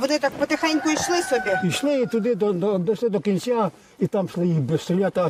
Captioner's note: rooster crowing